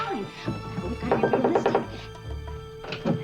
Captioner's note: knocks